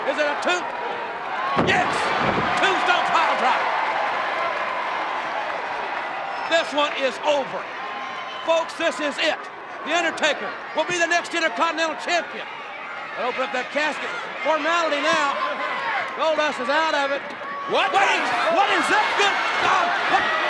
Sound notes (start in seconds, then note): 2.6 audience cheers